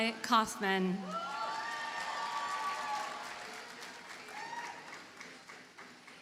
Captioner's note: audience cheers and applauds